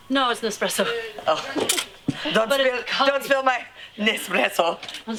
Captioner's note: laugh